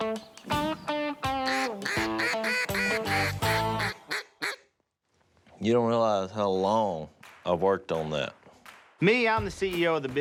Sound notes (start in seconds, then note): 1.4 duck call